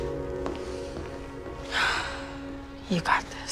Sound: sighs

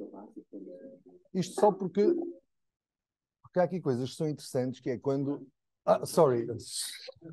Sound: speaking in Portuguese

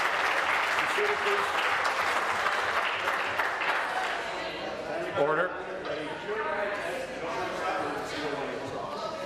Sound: applause

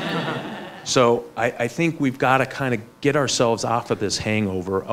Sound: laughs

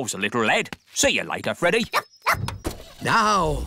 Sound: barks; car engine starts

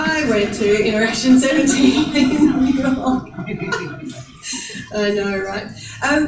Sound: laughs

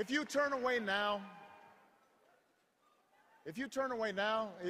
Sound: cheers and applause

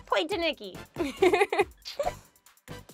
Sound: laughs

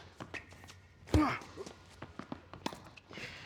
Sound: racket smacking; Marshall grunting; racket smacking; ball bouncing

